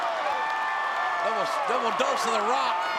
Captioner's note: crowd cheers